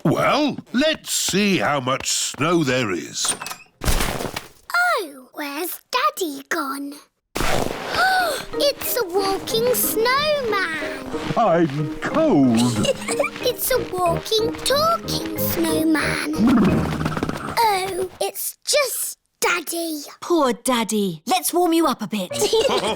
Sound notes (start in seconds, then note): 8.2 gasps; 12.4 laughs